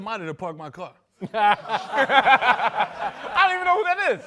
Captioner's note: laughs